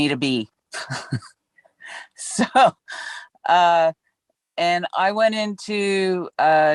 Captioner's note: laughs